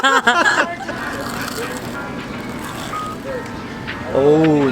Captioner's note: laughs; corn dog crunching